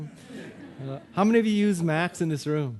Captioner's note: audience laughing